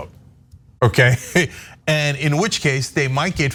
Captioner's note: laugh